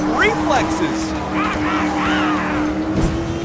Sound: roaring

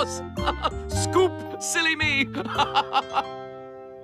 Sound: laughing

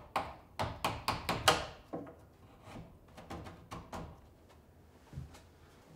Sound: hammering piece into place

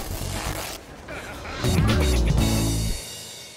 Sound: pants rip

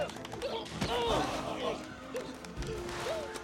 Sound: screaming; groans, Grunting

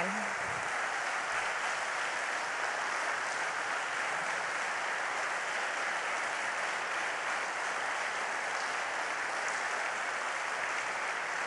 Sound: applause

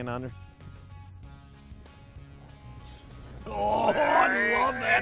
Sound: grunting

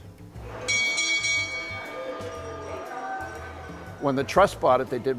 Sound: bell ringing

